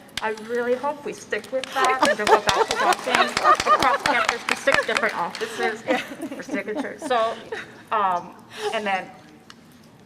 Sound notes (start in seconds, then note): 4.5 applause; 4.5 laughter